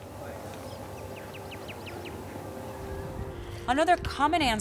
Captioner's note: birds chirping